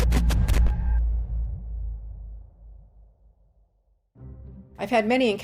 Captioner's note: crackling static